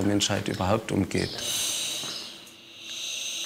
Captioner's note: hiss